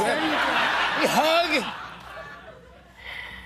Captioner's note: laughter